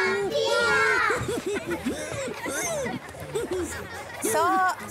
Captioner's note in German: Die Kinder lachen